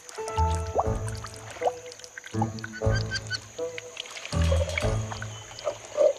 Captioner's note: water rustling; Lala popping water bubbles